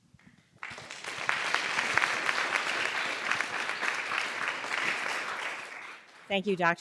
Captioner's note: applause